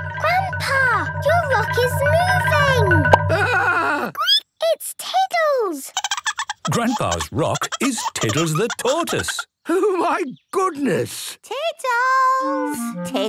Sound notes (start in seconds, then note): 6.0 squeaking; 6.0 Tiddles giggling